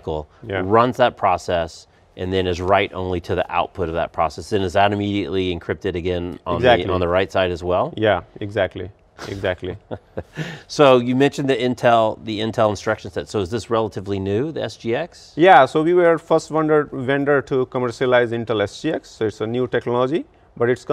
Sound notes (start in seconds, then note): 9.2 laughs